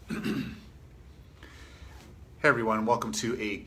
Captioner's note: clears throat